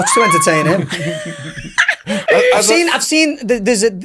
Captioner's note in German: Gruppe lacht